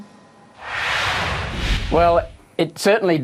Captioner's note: whoosh